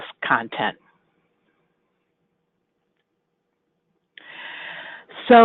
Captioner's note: silence